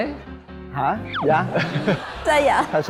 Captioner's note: laughing